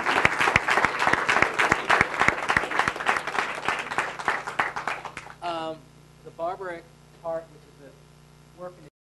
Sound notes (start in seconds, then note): 5.6 man stuttering